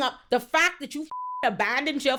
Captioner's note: beep